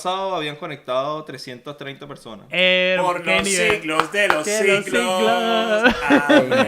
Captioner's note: applause